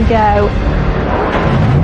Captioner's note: enginene revs